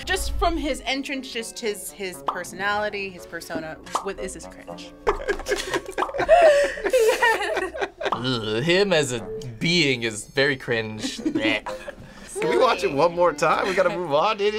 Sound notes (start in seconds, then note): 5.0 both laugh